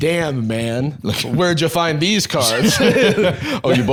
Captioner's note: both laughing